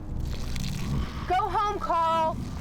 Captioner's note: growling